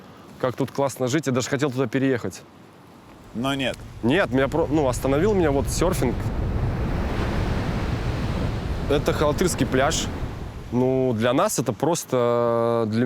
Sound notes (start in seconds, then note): 6.6 waves crashing